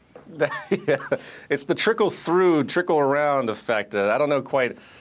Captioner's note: chuckles